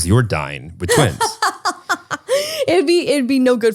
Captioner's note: laughs